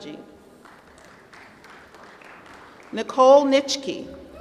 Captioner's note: applause